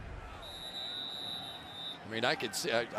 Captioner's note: whistle